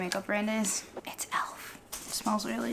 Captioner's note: whispers